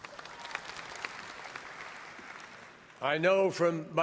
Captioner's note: applause